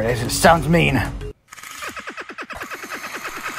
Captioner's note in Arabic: أصوات انحلال اللولب